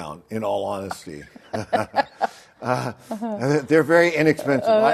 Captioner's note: both laugh; laughs